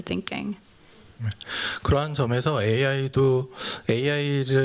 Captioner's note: speaking japanese